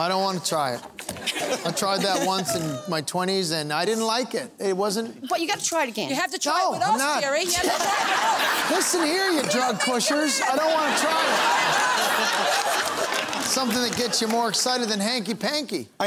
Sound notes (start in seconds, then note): 12.1 laughing and applause